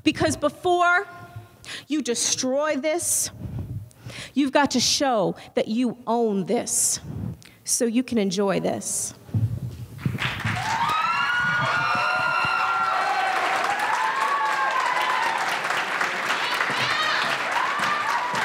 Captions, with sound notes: because before you destroy this, you've got show that you own this so you can enjoy this. (audience applauds and cheers)